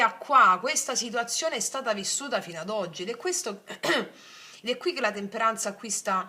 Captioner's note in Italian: schiarire la voce